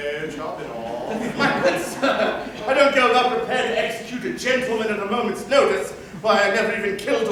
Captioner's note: laughter